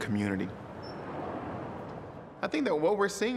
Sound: car whooshes

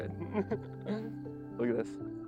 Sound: laughter

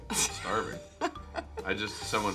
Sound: Charlize laughs

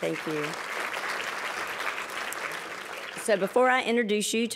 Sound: applause

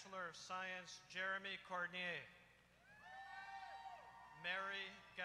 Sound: applause

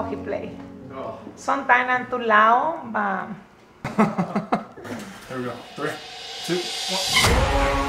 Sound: laughing

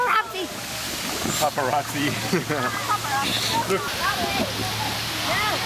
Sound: laughs

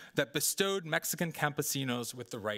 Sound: speaking Spanish

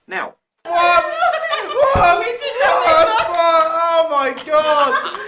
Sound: laughter

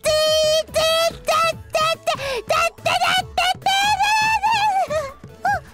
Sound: AI-chan frustrated noises

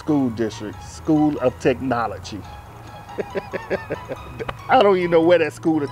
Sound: laughs

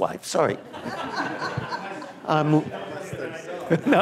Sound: laughter

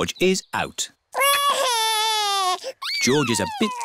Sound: crying

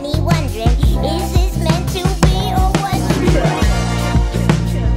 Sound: echoes

